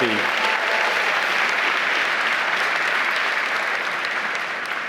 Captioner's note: applause